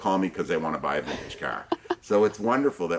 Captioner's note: chuckles